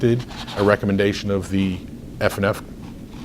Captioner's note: rustles papers